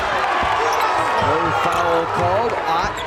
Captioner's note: crowd boos